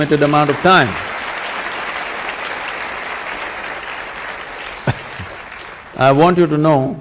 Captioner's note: applause